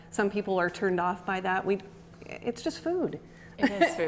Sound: laughs

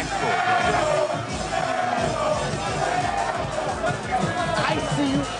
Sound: crowd chanting

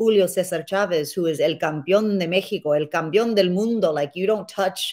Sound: speaks Spanish

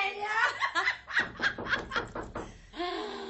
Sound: door knocking

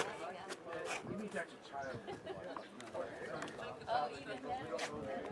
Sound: tourists chatting

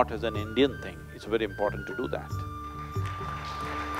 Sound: applause

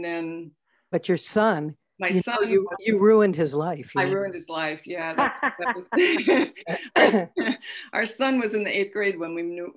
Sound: laughter

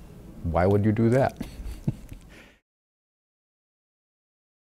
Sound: laughing

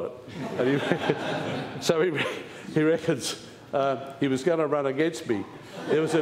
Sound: laughter; laughter

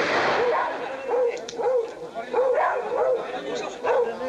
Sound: dogs barking; gun firing; gun clicks; everyone talking excitedly

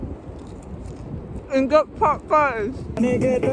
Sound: crunching chicken

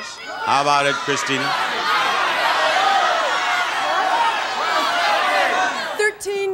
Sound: audience yelling

